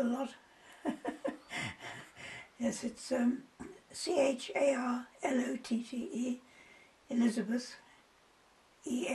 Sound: laughs

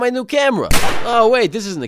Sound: gunshot

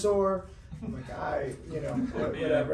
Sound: laughs

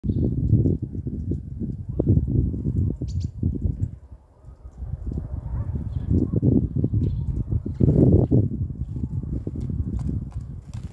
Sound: sound of sparrows and tits chirping and flapping their wings

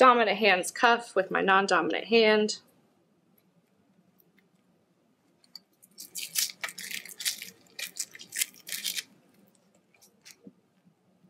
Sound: silence

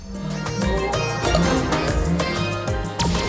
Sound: chug

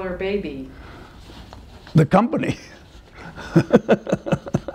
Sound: laughter

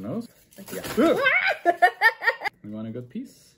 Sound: shouting and laughing

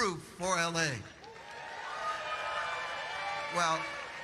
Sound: audience applauding

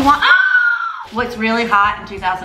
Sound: screams

